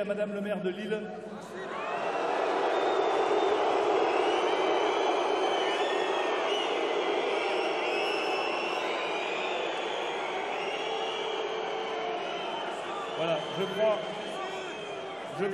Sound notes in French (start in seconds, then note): 1.8 Sifflements